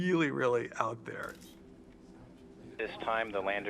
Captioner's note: camera clicking